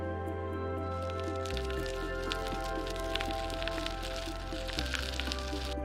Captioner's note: bicycle tires on asphalt